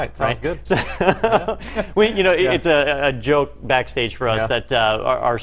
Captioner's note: laugh